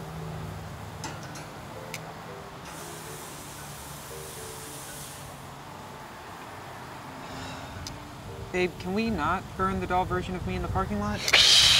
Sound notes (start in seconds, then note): 2.2 grill sizzling; 11.2 hissing